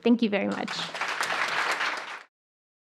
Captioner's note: applause